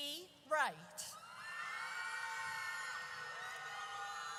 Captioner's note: audience cheers